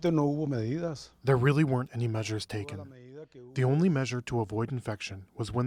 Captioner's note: through translator